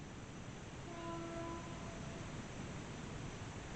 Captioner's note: train hoots